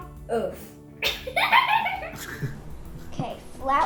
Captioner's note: laugh